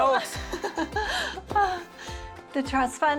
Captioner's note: Lisa laughs